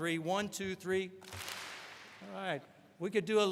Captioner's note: all clap